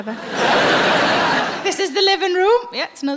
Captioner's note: audience laughing